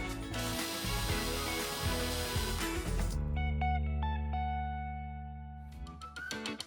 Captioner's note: equipment whirring; bright upbeat music